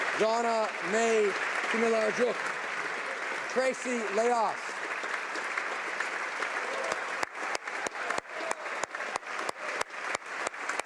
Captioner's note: applause